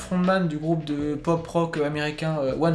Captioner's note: none